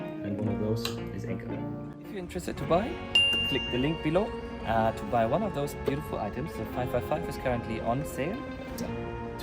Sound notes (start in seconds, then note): 3.0 bell sound